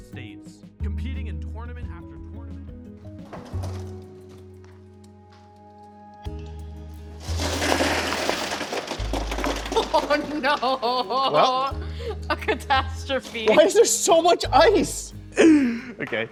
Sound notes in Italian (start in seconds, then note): 7.3 tonfo e fruscii; 15.4 ridendo